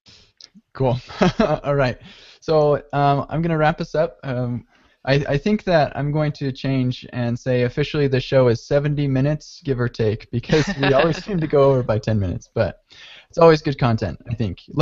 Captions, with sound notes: - Cool. (laughs) All right. I'm gonna wrap this up. I think that I'm going to change and say officially the show is 70 minutes, give or take, because we always seem to go over by 10 minutes. But it's always good content, I think.